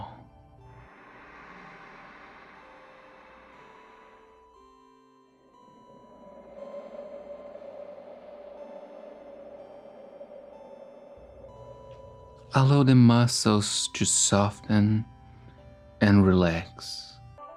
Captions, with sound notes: (gentle music) (breeze blowing) Allow the muscles to soften and relax.